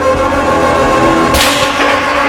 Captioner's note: shot